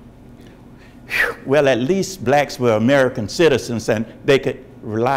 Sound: exhales

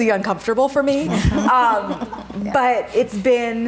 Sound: laughing

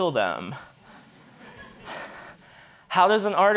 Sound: audience laughing

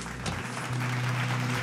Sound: applause

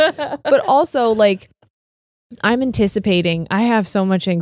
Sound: laughs

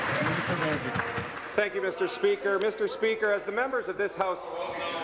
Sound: applause

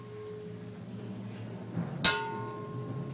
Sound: bell chiming

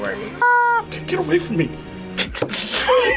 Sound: chicken squeals; both laugh

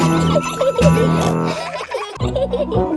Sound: children giggling; giggling; peppa snorts

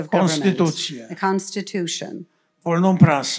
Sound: foreign language

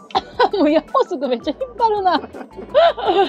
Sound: laugh

